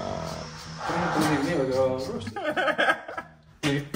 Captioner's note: laughs